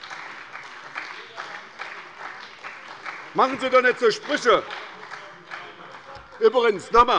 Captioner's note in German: Beifall bei der SPD